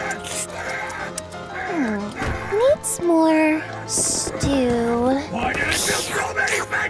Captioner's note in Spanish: sonidos de sorber